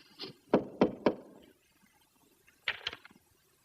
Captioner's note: knocking